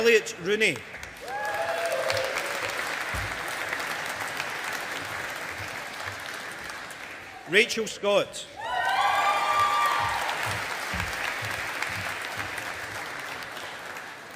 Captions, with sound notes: Elliot Rooney. (AUDIENCE APPLAUDING) Rachel Scott. (AUDIENCE APPLAUDING)